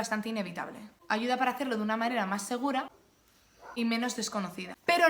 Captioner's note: dog non-stop barking